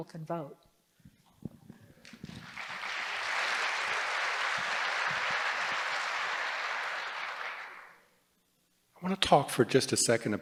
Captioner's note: applause